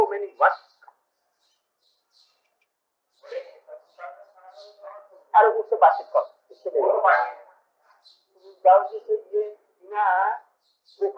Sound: Hindi

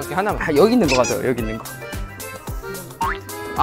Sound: arguing

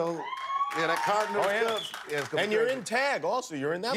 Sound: cheers

